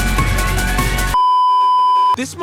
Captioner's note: beeeeeep